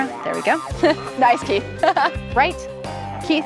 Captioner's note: laughs